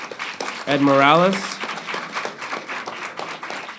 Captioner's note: applauding